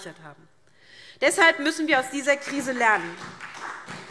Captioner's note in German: Beifall SPD